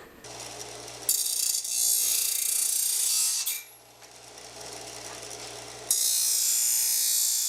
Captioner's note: metal grinding